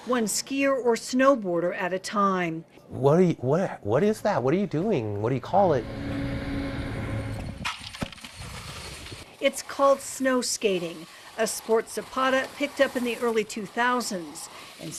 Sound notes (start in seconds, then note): 8.0 snow crunching